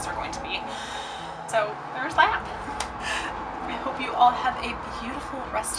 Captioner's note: claps